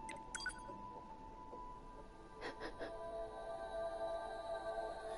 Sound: laughs

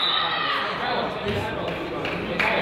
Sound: whistle blows; crowd chatters; crowd applauds

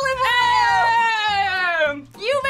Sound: cheering

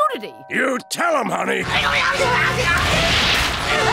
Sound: screaming

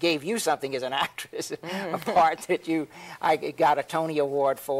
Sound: laughs

